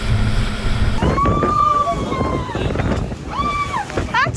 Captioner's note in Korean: 출발하자마자 익룡 사운드 on